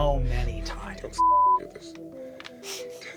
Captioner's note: beep